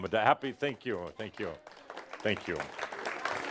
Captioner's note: audience applause